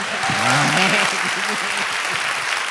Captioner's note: audience applause